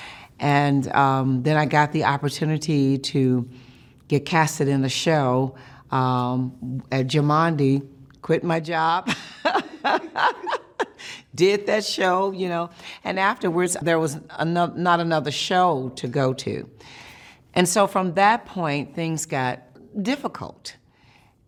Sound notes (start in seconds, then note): 9.2 laughs